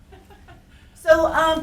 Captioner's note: laughing